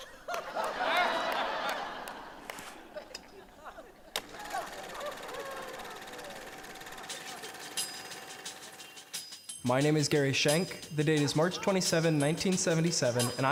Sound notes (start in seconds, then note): 0.0 all laughing; 4.1 classic projector running; 5.8 hip-hop beat